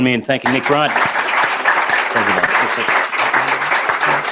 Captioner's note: applause